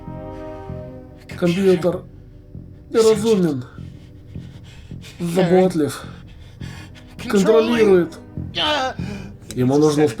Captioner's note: moans